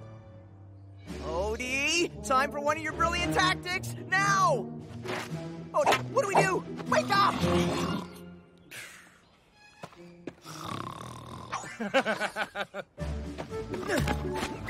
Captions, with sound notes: Odie! Time for one of your brilliant tactics. Now! Odie! What do we do? Wake up! (Snoring)